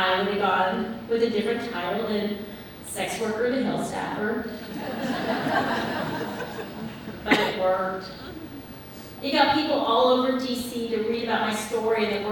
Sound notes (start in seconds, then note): 4.5 audience laughs